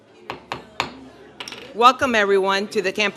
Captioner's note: gavel strikes